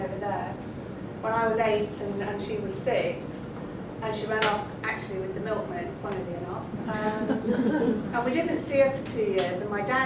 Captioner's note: laughter